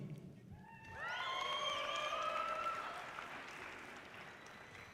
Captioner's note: audience cheering loudly